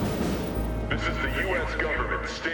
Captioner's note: loudspeaker